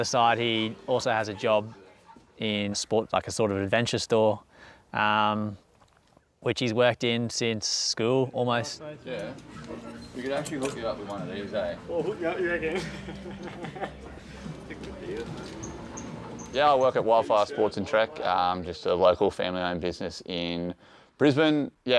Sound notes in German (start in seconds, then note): 14.1 lacht